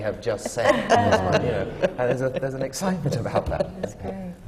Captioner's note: laughter